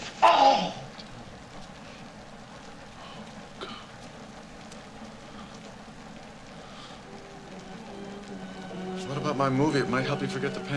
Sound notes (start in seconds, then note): 0.2 groaning; 7.1 classical music playing